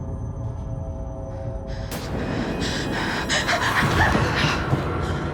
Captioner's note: gasping for breath